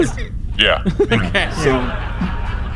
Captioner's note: laughing